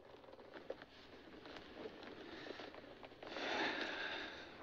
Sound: inhales, Exhales Slowly

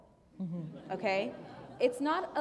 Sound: laughter

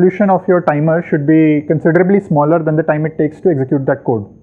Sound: timer

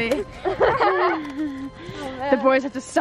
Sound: laughter

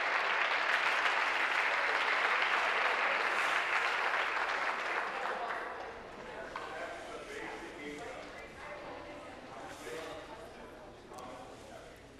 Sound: applause

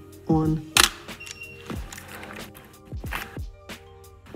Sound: camera shutter clicks

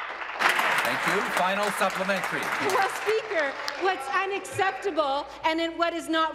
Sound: applause

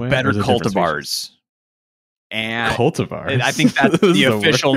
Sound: chuckles

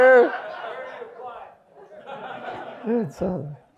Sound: audience applauds

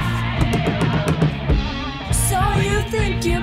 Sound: singing along; drumming table; singing along

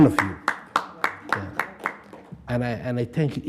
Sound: group clapping

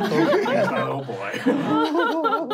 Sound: laughing

